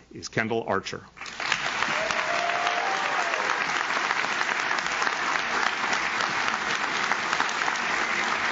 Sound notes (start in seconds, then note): 1.2 audience claps; 1.4 audience cheers